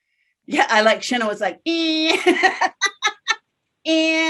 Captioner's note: laughs